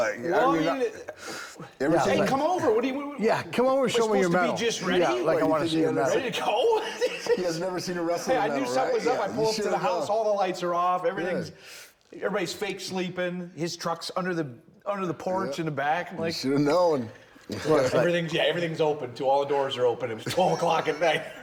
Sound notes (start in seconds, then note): 2.7 stammering; 6.1 laughing; 20.0 Bron and Rick laughing